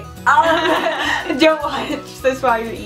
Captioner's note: laughing